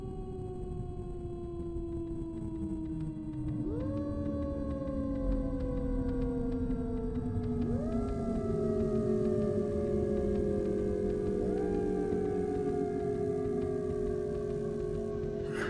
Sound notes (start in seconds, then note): 9.3 electricity sounds from the power lines